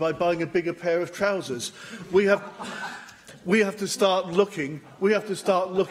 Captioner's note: laughter